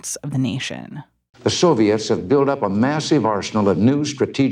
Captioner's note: soundbite of archived recording